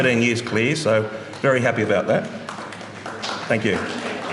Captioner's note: applause